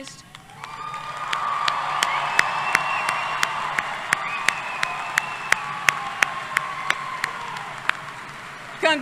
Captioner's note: applause